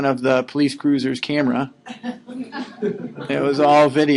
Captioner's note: laughing